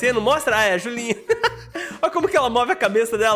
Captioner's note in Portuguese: risos